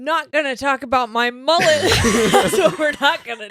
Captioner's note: laughing